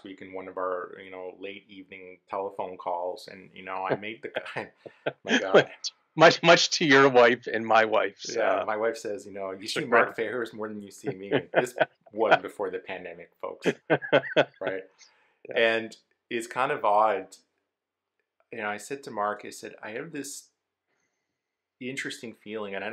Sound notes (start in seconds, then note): 5.3 laughs; 10.9 laughs